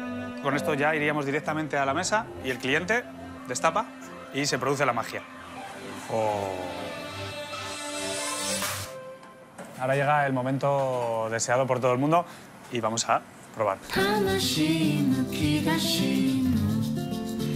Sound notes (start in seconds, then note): none